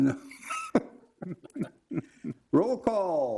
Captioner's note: laughter